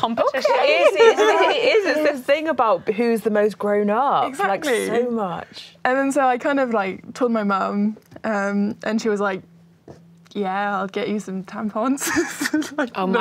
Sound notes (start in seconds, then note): 0.6 laughing; 12.1 laughing